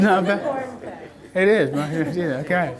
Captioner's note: voiceover